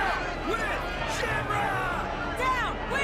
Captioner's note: chanting